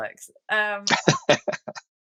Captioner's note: <Laugh>